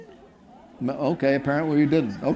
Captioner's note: audience laughing